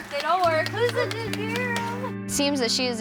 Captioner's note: hands clapping